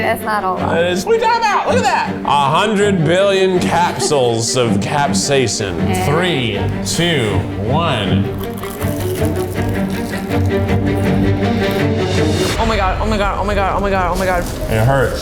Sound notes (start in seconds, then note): 0.0 beeps; 7.8 corn dogs crunching; 8.4 tense, energetic music